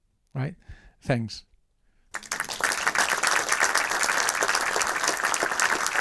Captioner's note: audience applauding